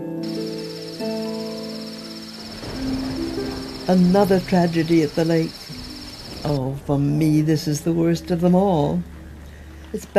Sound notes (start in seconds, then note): 0.0 crickets chirping